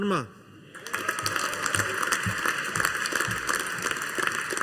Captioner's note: audience applauding